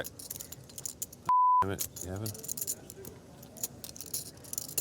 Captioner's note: beep